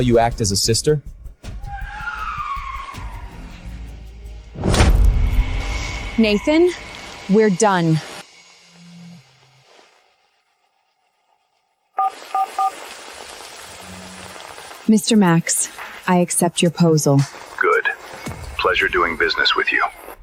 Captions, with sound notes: act as a sister? (SIREN WAILING) Nathan, we're done. (BEEPING) Mr. Max, I accept your posal. Good. Pleasure doing business with you.